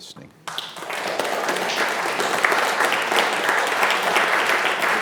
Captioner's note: audience applauds